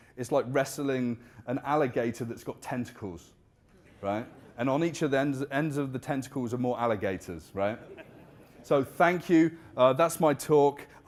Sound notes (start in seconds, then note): 7.6 audience laughing